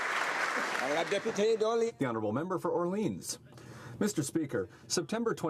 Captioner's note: some Applause